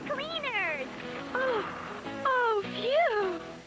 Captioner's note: laughing